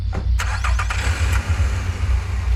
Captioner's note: engine starts